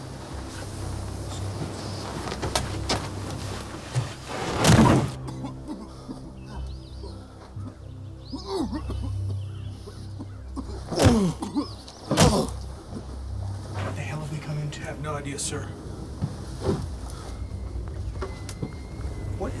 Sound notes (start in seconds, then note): 10.1 coughing